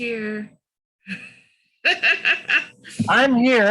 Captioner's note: laughs